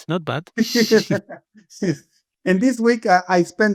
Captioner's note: both chuckling